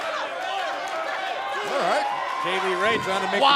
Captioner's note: crowd cheering